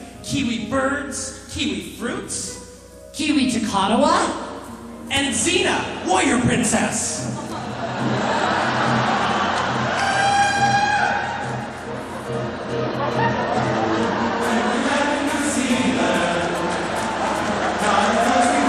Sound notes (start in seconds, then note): 7.2 audience laughing; 8.8 Xena imitator howling dramatically; 16.3 audience clapping and laughing loudly